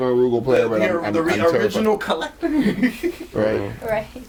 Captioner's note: overlapping chatter